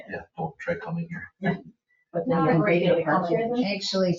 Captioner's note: people chatter